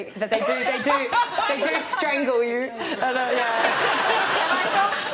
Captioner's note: audience laughs